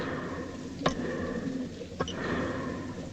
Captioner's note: breathing slows